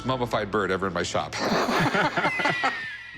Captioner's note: laughter